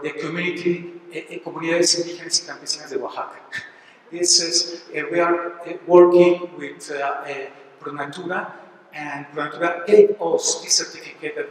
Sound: spanish

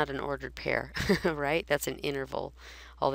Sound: chuckles

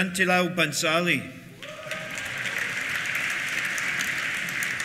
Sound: cheers; applause

